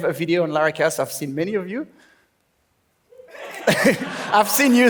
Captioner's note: laughs